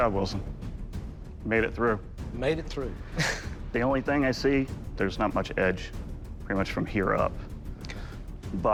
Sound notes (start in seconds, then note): 3.0 chuckles